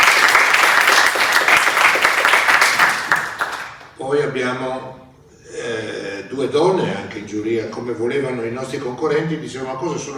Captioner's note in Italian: Applauso